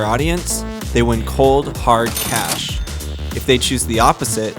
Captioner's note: cash register ca-ching